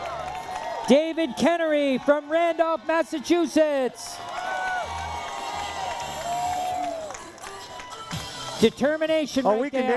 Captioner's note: cheering